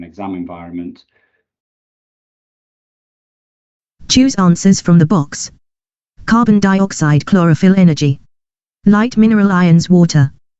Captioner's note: computer speaks